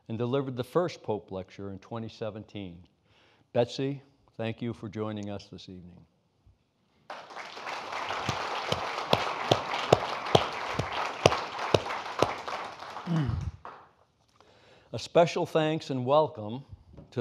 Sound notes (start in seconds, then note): 7.1 audience applauding